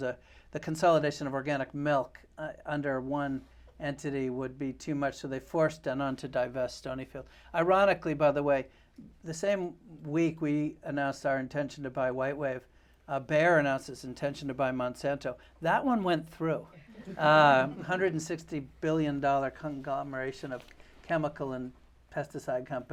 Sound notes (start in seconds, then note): 16.8 laughter